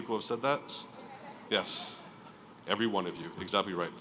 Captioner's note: crowd laughing